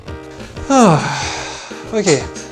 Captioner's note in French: Soupir soulagée